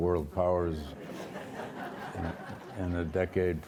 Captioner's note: audience laughs